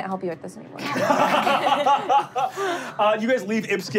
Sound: laughing

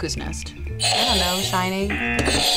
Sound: buzzer; buzzer rings

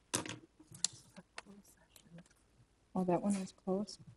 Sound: whispering

